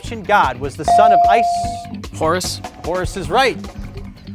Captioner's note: bell dings